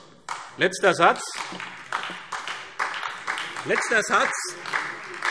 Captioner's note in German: Beifall SPD und vereinzelt DIE LINKE